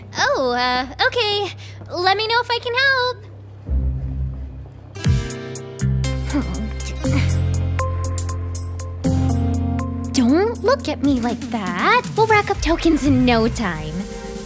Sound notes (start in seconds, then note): 6.2 groans